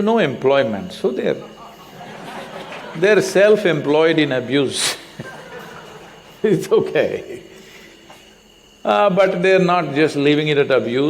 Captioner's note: laughter